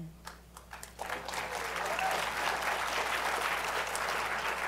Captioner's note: applause